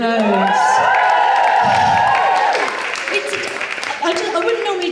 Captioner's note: audience Cheers